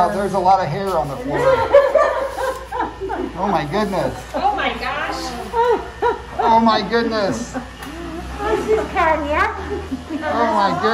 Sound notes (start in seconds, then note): 1.3 both laughing